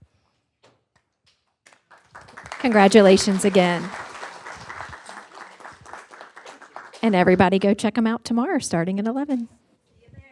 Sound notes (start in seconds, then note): 4.2 applause